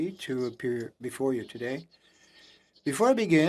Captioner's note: speaking French